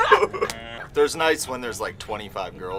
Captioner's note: interviewees laughing